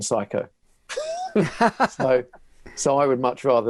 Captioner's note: laughing